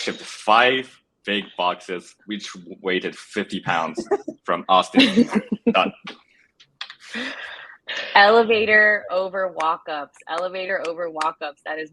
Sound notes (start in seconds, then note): 6.8 laugh